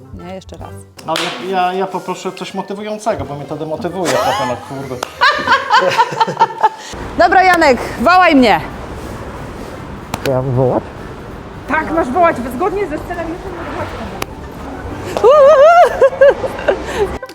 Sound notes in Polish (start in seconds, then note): 4.0 śmiech; 15.1 śmiech